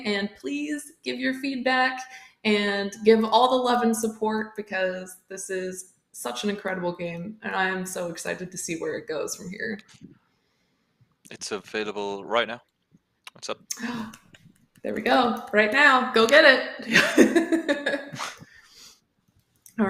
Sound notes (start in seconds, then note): 14.2 gasp; 18.8 ? click ?